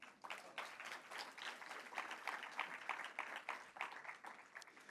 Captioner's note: audience applauds